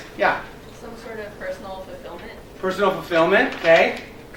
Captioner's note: woman's Voice